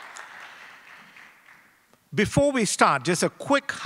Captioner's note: applause